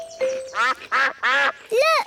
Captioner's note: quacking